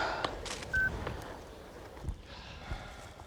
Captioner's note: beep